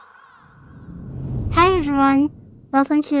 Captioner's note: screen whooshing